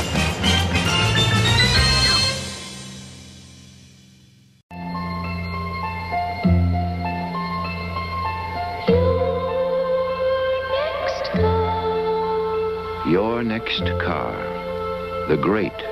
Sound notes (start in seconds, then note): 0.0 theme tune playing; 4.6 TV ad for the new, 1968 Chrysler Newport playing